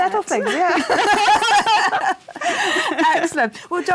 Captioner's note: laughter